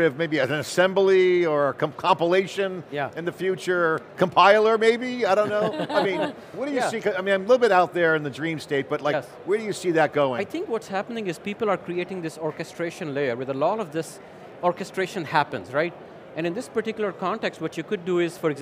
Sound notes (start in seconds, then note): 5.4 light laughter